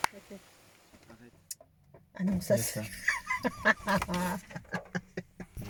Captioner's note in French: Rires